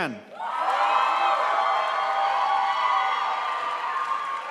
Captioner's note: crowd applauds